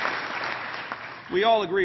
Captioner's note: applause